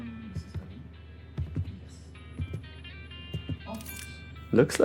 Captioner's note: footsteps